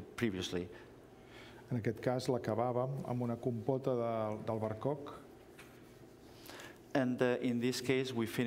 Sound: speaking catalan

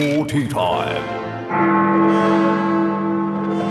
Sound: bell rings

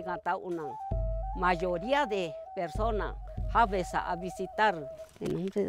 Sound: Speaking Mixtec

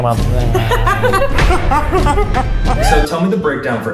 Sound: laughing; slow motion laughing

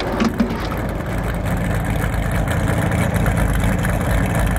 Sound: engine revving

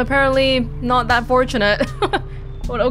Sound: chuckles

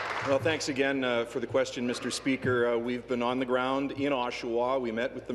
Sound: applause

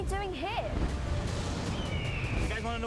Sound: eagle screeching

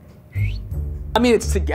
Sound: whistling

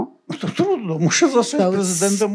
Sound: foreign language

